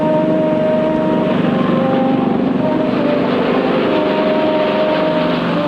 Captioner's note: airplane engine whirring